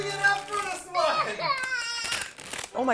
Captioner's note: tortured crying